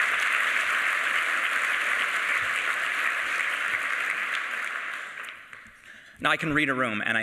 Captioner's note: applause